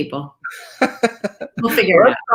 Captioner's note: laughs